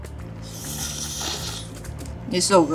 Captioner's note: food slurping